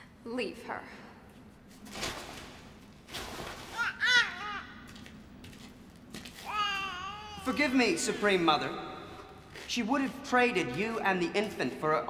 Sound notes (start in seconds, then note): 3.7 baby gurgles